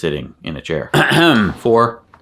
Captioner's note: clears throat